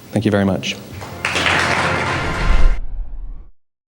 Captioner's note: aplausos